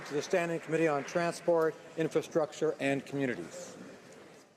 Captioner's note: applause